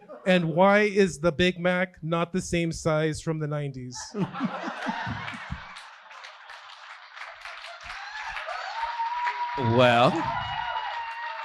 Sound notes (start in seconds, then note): 4.4 audience cheering and clapping